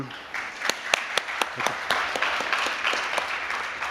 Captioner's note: applause